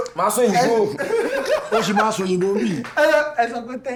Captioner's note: laughs